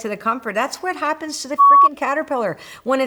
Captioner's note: beep